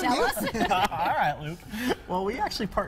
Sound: laughter

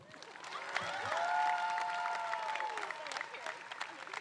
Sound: crowd cheering

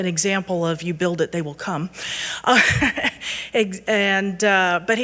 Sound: chuckles

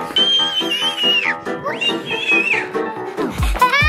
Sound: screaming

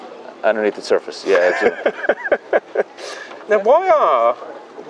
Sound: laughs

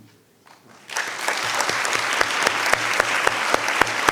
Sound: audience applauds

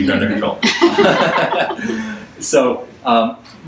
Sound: audience laughs

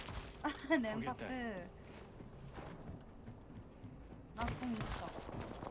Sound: laughs

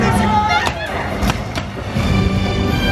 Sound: explosion; fireworks popping

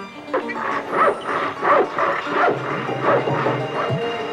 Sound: clattering; sawing

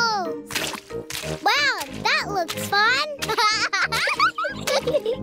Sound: laughs

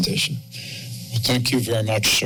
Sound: breaths deeply

